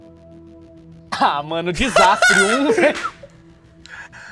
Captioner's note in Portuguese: Risada